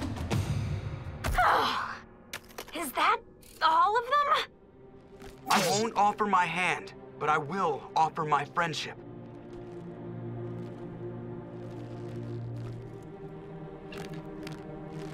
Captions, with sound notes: [sighing] Is that all of them? I won't offer my hand, but I will offer my friendship.